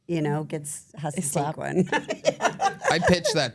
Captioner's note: laughs